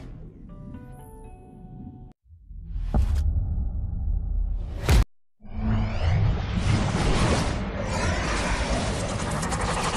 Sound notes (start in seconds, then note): 2.5 epic sounds; 5.4 digital spinning noises